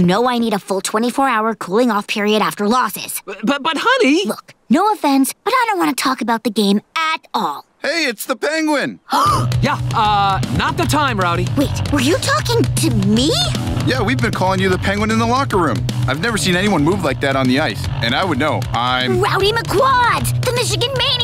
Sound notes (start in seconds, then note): 9.1 gasping